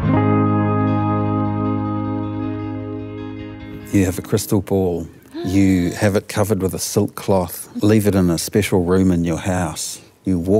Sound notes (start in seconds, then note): 1.6 gentle music fades; 5.2 gasps